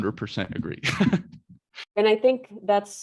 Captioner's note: chuckles